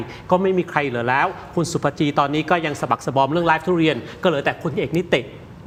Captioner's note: none